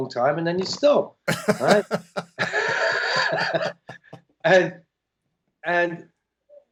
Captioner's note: laughter